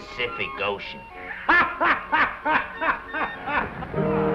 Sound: bartender laughs

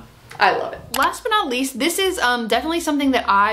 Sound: mouse clicks

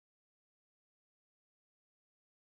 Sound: none

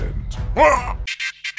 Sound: vomits

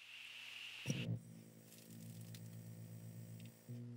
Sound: tube Television Shutting Off Noises

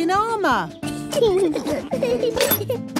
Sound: children giggling

